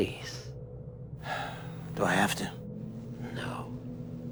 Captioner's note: sighs